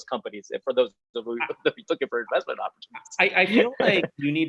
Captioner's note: chuckles